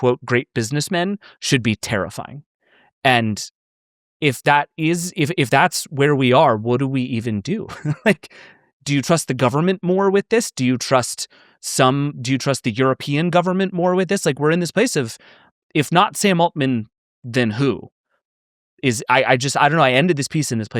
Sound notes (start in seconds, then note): 7.7 laughs